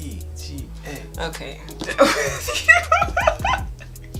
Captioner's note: laughing